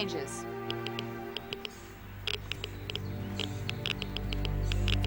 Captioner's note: machine clicking